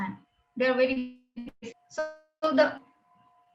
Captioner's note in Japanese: 通信の乱れ